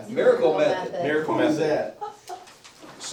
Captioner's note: laughs